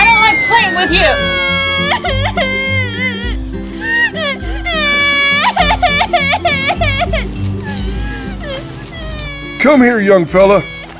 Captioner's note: sister crying